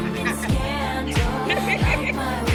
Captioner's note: both laughing